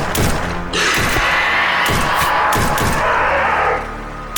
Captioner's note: gunfire popping; snake growls